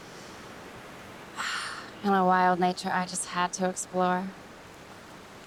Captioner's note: sighs